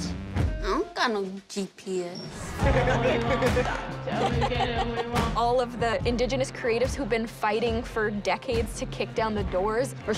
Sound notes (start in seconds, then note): 4.0 laughter